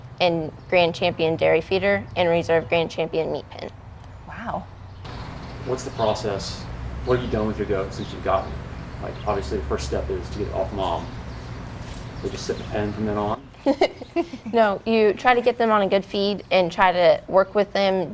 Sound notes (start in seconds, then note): 13.5 laughs